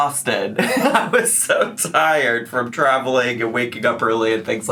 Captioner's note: laughing